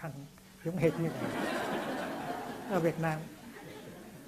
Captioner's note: audience laughs out loud